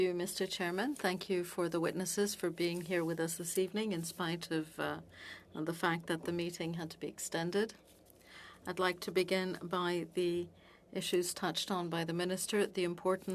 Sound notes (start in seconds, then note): 5.1 speaking French